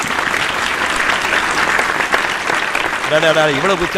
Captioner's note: unanimous applause